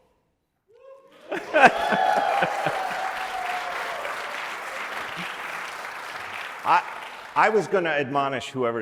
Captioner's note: applause